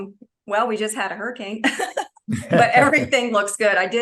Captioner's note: laughs